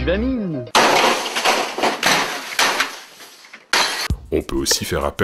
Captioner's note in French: Bruits de marteau